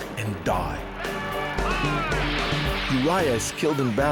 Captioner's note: men shouting